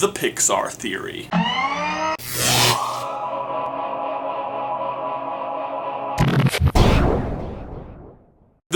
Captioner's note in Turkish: elektronik sesler